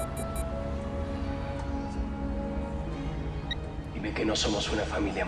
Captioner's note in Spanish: Suena el celular